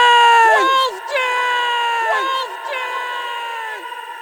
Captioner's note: voice echoes